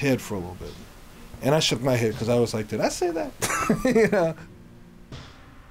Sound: laughs

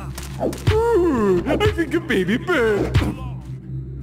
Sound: taunting

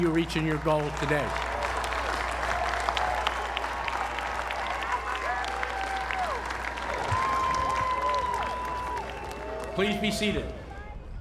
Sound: applause

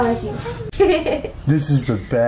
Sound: laughs

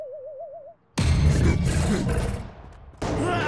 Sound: snorts

